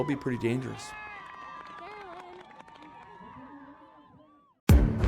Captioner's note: cheering; upbeat music